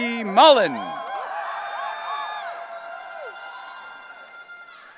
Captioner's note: audience cheering